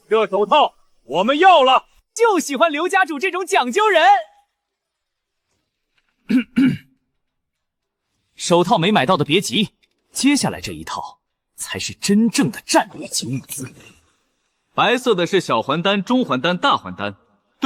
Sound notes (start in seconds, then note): 6.2 cough